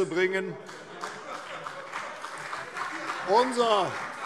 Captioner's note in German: Beifall CDU und BÜNDNIS 90/DIE GRÜNEN - Lachen Freie Demokraten - Zurufe